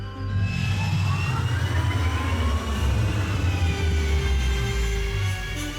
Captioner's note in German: Ferengi-Antrieb dröhnt